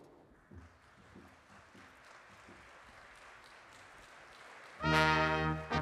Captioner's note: applause